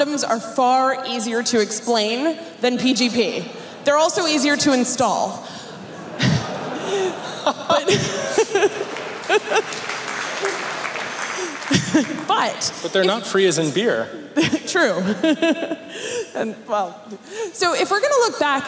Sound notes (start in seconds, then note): 5.7 laughters; 8.3 applause